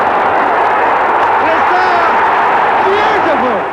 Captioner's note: crowd roaring